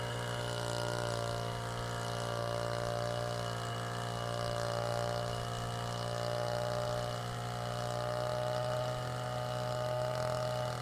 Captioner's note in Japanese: 草刈機